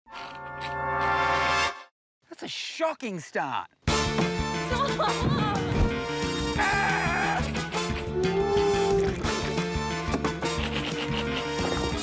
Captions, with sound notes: That's a shocking start! Ohh! A-a-a-gh! [BELLOWS]